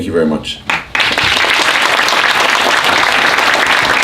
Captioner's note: applause